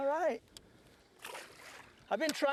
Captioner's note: splash